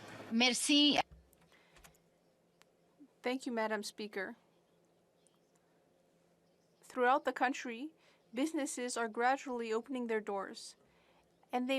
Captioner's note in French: voix de l'interprète